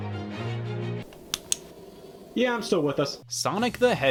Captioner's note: flashlight clicking